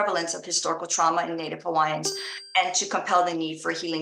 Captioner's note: bell chiming